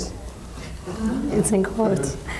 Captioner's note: all laughing lightly